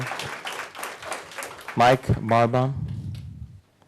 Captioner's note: applause